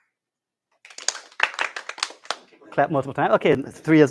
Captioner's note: applause; clapping